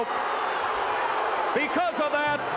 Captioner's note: crowd booing